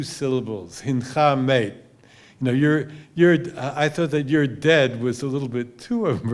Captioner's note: hebrew